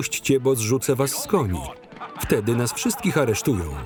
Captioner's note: laughing